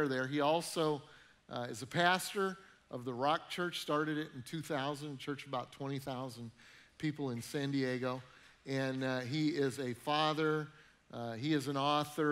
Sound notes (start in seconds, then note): none